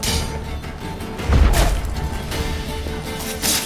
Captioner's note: thunderous boom